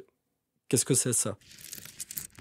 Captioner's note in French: bruit de pierres